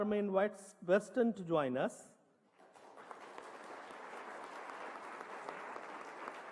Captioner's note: applause